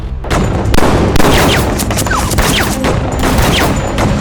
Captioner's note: gunshots firing